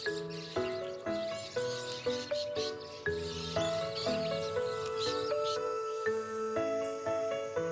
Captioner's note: parrots chattering, music